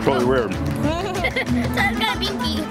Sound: laughs

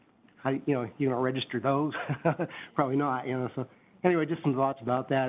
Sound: laughs

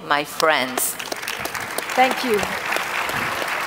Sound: audience claps

